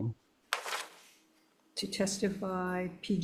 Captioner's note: paper rustling